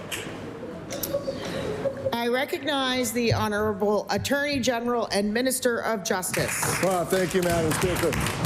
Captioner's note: applause